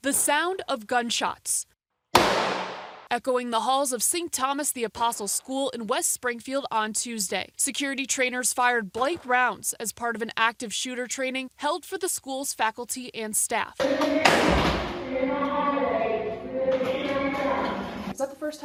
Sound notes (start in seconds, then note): 14.1 nat sound of gun; 16.7 nat sound of gun